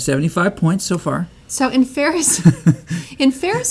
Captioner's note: laughs